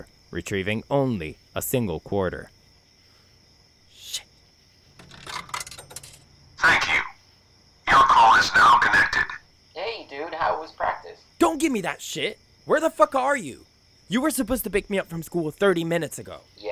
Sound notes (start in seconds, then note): 4.9 sound of coin being inserted